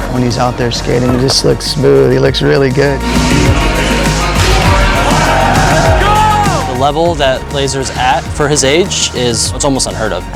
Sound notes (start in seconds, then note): 3.1 crowd cheering